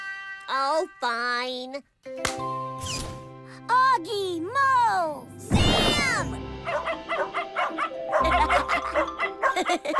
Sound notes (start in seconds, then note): 6.2 laughing; 6.6 barking